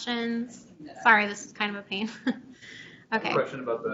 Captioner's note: chuckles